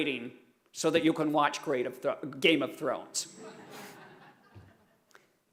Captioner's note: laughter